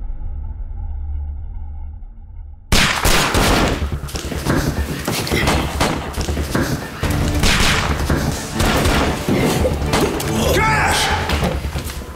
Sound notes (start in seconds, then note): 2.7 guns firing